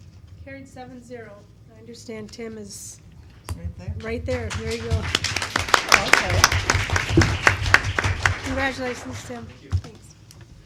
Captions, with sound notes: Carried seven-zero I understand Tim is right there. (clapping) Congratulations Tim.